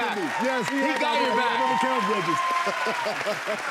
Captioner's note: cheers and applause